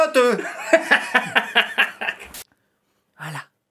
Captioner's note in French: rires